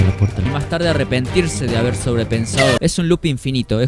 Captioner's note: sudden scream